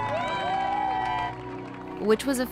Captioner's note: cheers